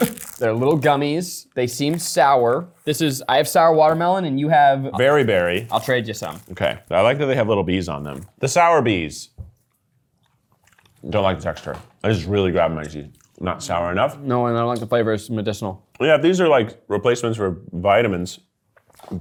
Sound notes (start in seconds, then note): none